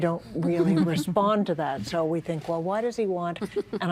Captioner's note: laughing